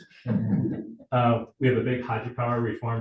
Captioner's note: audience laughing